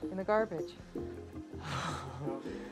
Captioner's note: sighs